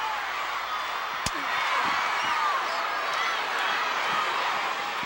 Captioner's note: audience cheering